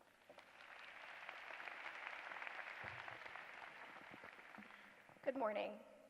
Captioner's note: applause